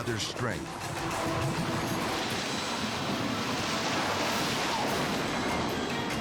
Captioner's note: torrent rumbling; suspenseful music